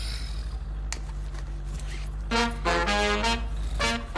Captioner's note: sighs; upbeat music